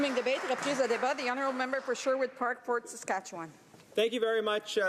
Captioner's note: applause